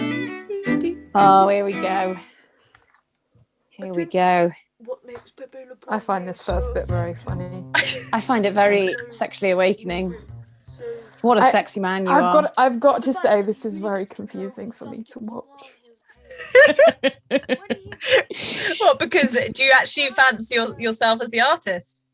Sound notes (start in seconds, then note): 16.1 laugh